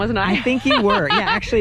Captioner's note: laughs